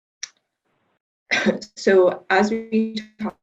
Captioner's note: coughs